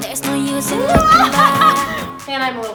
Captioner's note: laughter